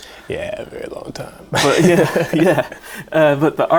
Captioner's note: laughing